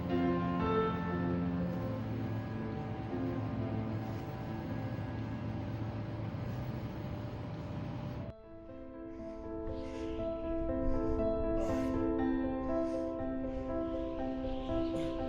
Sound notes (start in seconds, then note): 0.2 eerie music; 9.9 gentle music; 9.9 wind whistling